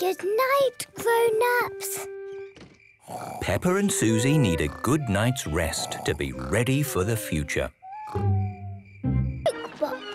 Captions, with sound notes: - Good night, grown-ups. - (Peppa and Suzy snoring) - Peppa and Suzy need a good night's rest to be ready for the future!